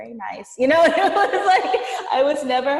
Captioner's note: laughing